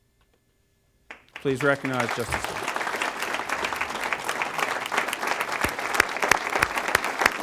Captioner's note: applause